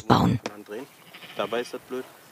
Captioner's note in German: Blöken